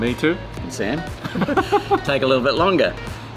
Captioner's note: laughter